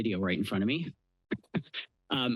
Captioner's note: laughs